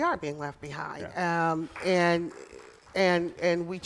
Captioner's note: applause